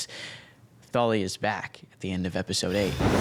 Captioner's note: thunder